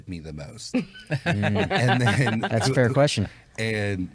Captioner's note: laughs